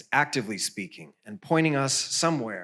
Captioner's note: none